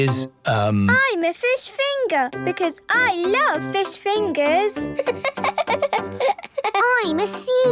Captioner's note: laughing